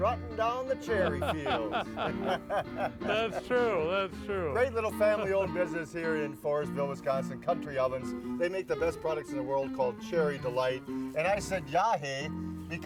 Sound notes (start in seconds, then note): 0.7 men laughing